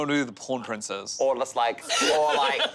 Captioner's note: laughing